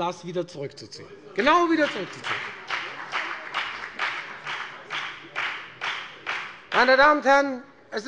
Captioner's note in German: Lebhafter Beifall bei der FDP